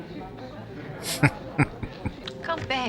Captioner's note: chuckling